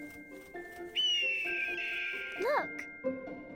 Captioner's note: hawk scream